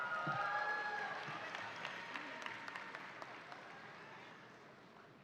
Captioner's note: audience applauding